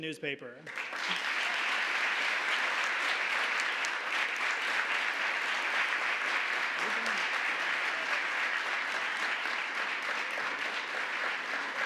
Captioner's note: applause